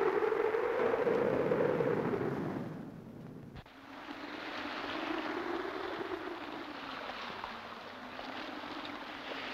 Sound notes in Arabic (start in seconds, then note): 1.7 رش الماء; 1.7 هدير الريح